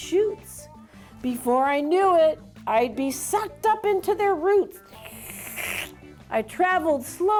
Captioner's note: slurps